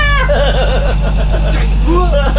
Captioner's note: laughter